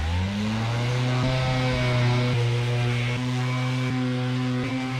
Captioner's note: sander whirring